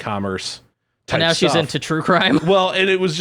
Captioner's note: laughing